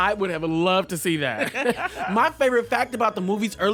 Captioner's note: laughter